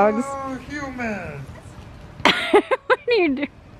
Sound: laughs

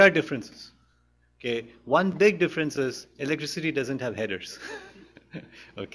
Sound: laughs

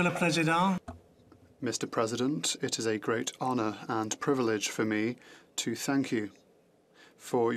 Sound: speaking French

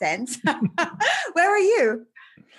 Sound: both giggling

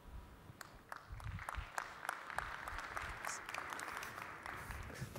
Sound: applause

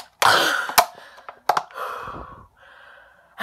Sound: gasping for air

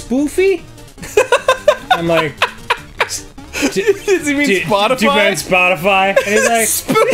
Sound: laughs; laugh like a couple of god damn hyena's

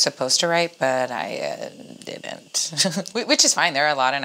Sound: chuckles

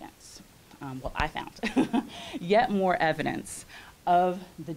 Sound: chuckles

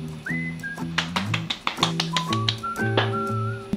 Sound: slap slap slap slap

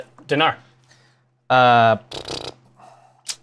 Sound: blows raspberry

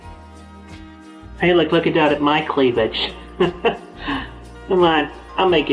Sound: laughter

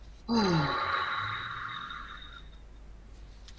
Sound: sighs

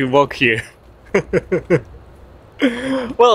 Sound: chuckles

